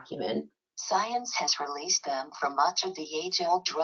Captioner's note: computerized Voice